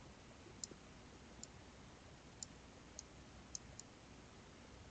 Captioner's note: mouse clicking